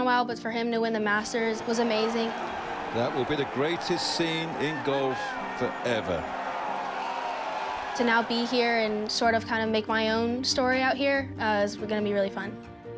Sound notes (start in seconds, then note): 6.7 crowd cheers